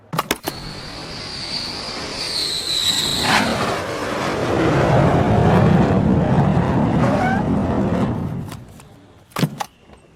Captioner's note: airplane take off